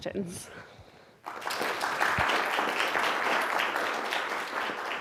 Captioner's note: applause